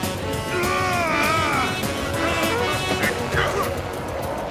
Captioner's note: yelping; yelling